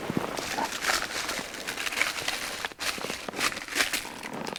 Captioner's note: trash rustling